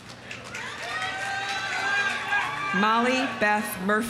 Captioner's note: audience applauding; audience cheering